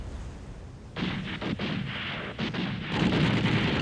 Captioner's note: guns firing